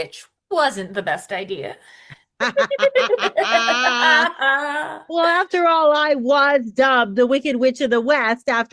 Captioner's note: they both cackle